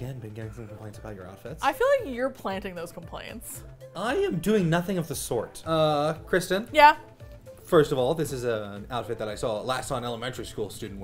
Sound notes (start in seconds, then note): none